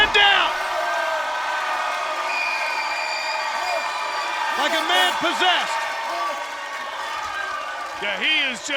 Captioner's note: applause